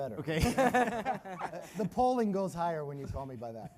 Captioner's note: laugh